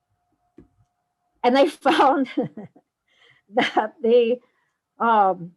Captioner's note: laughs